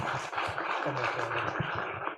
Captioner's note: applause